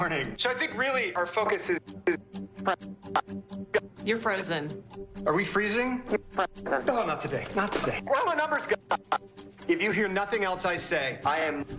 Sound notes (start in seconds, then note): 3.1 glitching audio; 6.2 glitching audio; 8.7 glitching audio